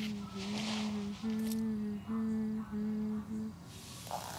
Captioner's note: continues humming